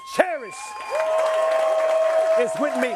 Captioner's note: crowd applauding and cheering